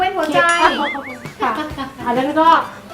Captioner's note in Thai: หัวเราะ